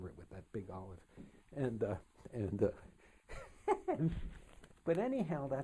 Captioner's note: laughs